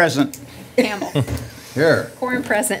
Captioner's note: laughter